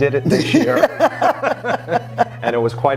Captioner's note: laughing